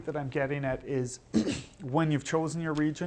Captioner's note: clearing throat